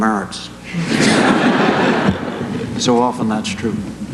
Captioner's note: laughter